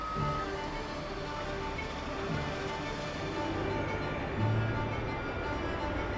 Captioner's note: gentle music; machinery rumbling